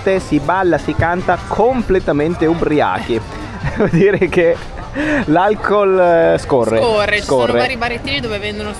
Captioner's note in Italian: risate